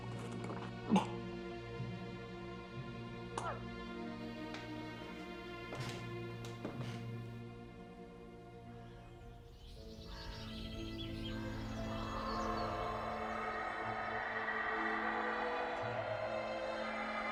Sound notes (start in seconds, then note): 0.8 coughing; 4.4 soft dramatic music; 8.4 birds chirping; 13.2 screaming echoing